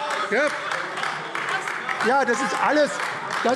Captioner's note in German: Beifall AfD